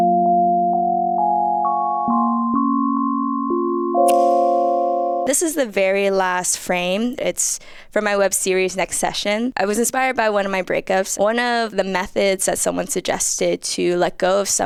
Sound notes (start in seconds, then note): 0.0 calm instrumental music continues; 4.1 object snaps